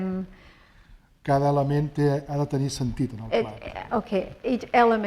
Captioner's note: speaking spanish